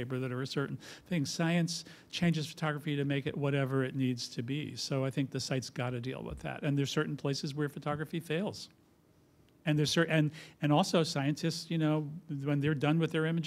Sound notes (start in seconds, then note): none